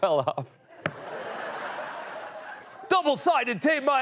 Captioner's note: laughter